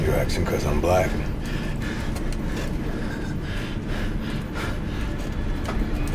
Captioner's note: Moss laughs